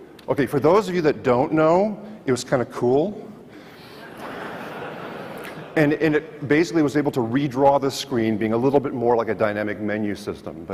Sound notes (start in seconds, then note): 4.0 audience laughs